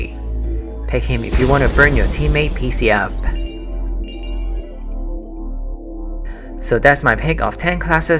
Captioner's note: boooom